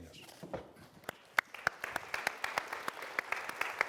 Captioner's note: applause